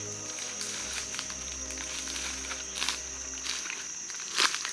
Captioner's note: leaves crunching